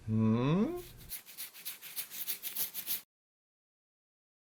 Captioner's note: scratching